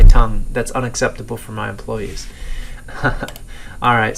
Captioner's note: giggles